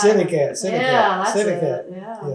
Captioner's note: laughs